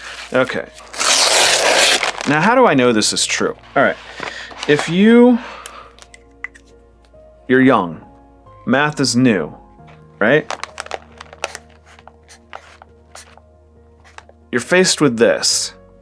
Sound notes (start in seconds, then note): 0.8 package tearing open; 5.9 uncapping pen; 12.2 marker writing